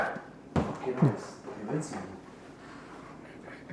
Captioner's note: speaking softly; chuckling